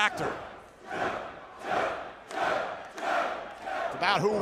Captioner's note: crowd cheering